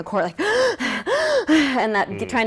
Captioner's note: gasping